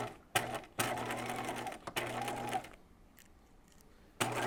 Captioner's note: sewing machine whirring